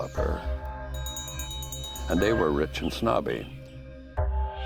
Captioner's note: bell ringing